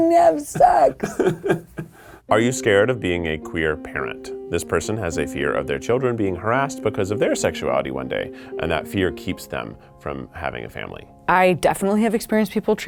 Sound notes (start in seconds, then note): 0.5 laughing